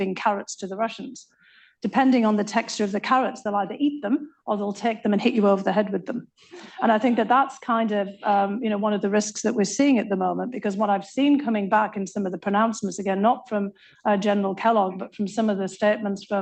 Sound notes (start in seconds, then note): 6.6 laughter